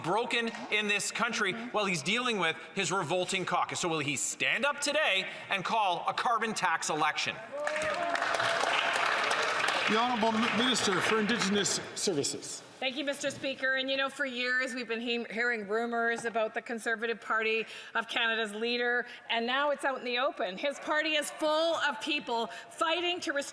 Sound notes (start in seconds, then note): 11.5 some Applause